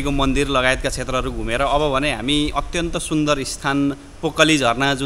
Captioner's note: waterfall